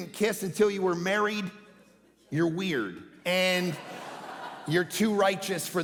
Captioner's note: congregation laughing